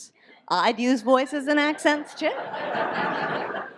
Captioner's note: audience laughs